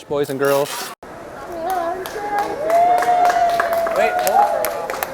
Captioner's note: cheers and applause